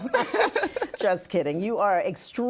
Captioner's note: laughing